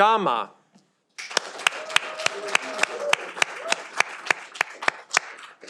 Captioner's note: audience applauding